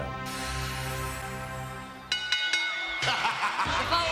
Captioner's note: laugh